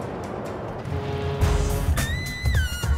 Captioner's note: quirky upbeat music; siren blows; uptempo music